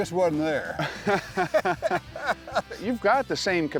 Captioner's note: laughter